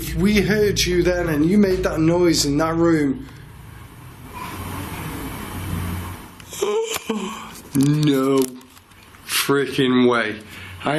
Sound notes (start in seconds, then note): 7.1 gasps